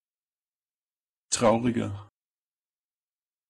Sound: fast Pronunciation

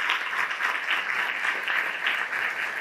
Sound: applause

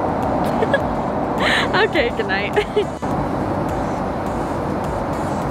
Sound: laughs

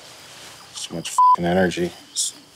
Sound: beeping

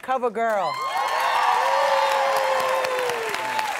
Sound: applause

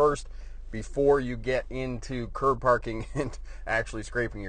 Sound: laughs

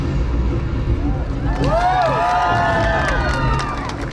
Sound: applause

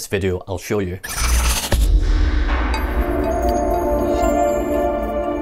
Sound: stuttering sound effect

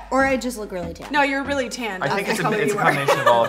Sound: chuckles

